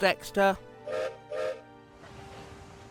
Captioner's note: gilbert whistles